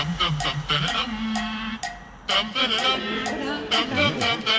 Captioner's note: Sonido de tararear